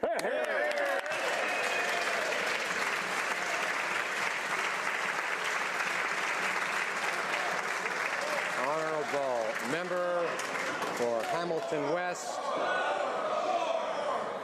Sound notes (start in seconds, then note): 7.0 some Applause